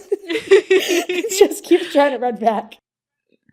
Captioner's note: both laugh